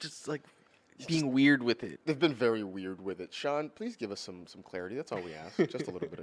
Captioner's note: laughs